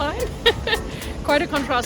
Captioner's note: speaker laughing